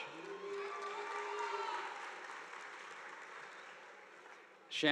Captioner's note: audience applauding